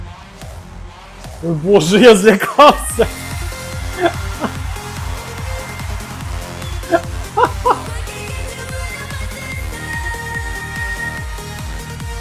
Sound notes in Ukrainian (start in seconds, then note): 6.6 сміх